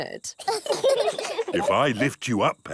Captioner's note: children laugh